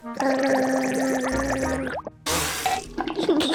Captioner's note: gargles